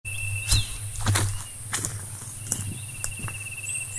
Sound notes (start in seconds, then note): 0.2 footsteps